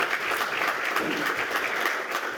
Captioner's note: applause